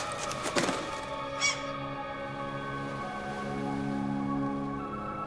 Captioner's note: fluttering; seagull screeching